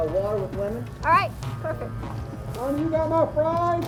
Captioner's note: voiceover; voiceover